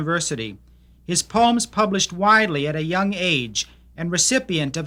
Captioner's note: voiceover